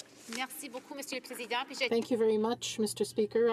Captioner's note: speaking in french